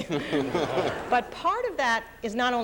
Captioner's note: audience laughs